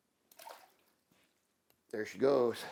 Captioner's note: water splashes